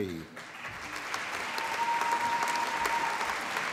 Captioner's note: applause